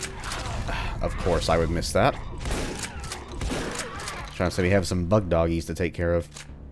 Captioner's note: sigh